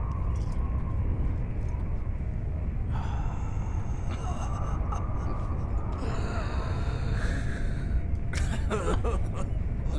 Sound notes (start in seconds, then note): 4.8 chuckling